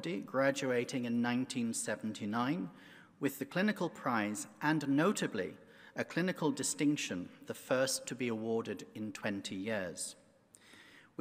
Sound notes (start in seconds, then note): none